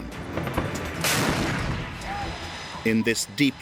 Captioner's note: explosion booming